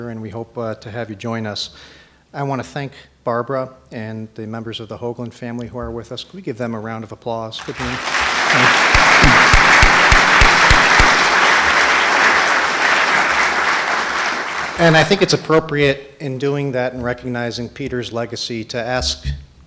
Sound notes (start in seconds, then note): 7.6 audience applauding